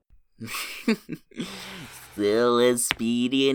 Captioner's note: chuckles